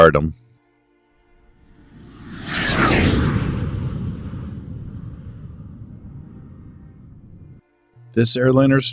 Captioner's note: jet Whoosh